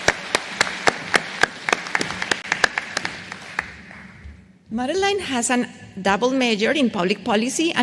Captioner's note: applause